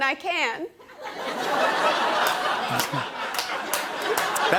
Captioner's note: laughter